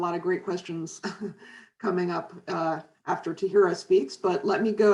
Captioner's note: chuckles